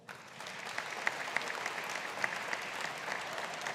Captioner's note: audience applauding